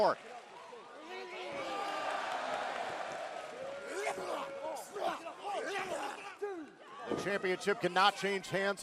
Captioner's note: crowd cheering